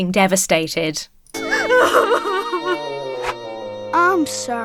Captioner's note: mother continues crying